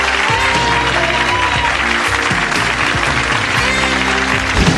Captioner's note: audience applauding